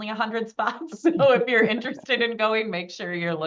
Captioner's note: chuckles